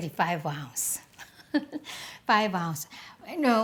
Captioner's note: giggles